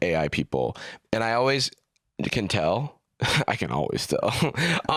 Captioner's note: laughs